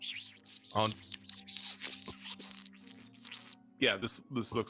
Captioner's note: Freely whispering